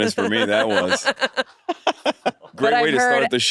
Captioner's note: all laughing